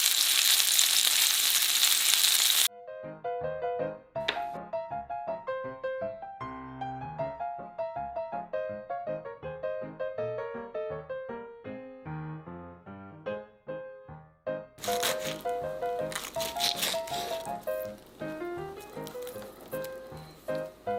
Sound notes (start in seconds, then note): 14.8 cutting sound